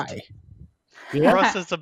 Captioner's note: laughs